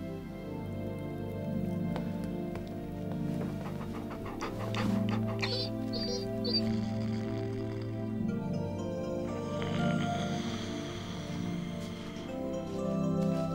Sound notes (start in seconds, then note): 4.8 dog panting and whining; 7.7 snores